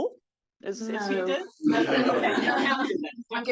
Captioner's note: audience laughs